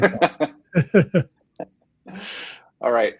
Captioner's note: laughs